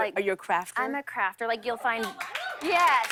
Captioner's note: cheers and applause